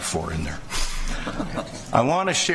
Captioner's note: laughter